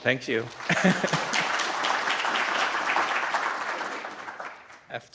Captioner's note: applause